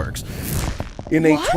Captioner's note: low thunk, followed by a cascading, electric twang of power